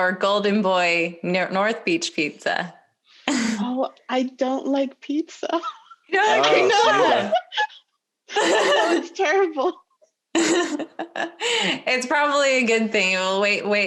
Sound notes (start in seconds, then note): 6.2 laughs loudly